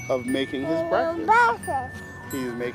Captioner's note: child talking